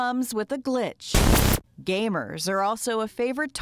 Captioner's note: game crackling